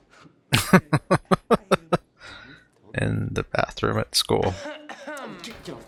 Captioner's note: laughing